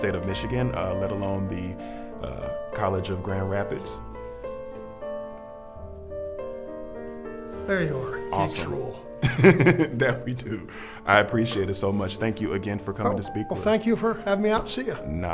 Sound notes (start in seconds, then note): 9.2 laughing